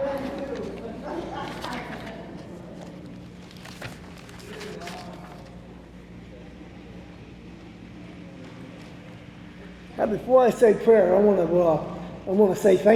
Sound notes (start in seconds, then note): 0.0 attendees laughing; 0.8 laughing; 4.0 object rustling